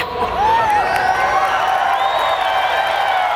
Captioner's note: cheers